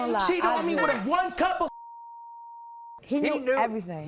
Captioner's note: beep